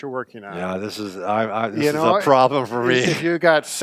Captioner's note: laughs